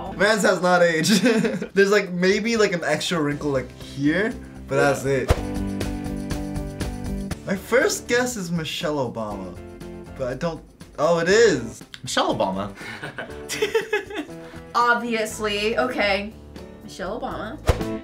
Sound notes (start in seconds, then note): 1.0 chuckles; 12.8 React chuckles; 13.4 giggles